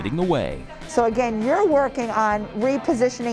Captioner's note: class chatters